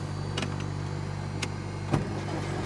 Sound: engine rumbles on

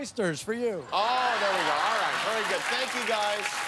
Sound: cheers and applause; laughter

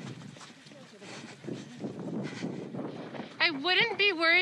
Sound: sound of footsteps; heavy breathing

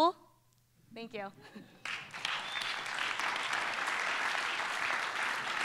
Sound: laughs; applause

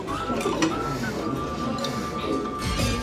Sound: blowing

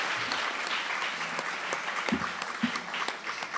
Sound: applause

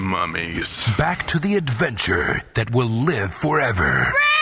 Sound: voiceover

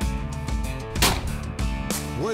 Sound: gun shot

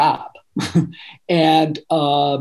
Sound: laughing

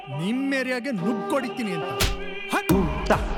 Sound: slap

